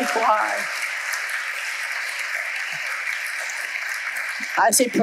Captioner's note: audience applauding